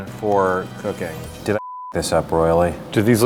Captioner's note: beep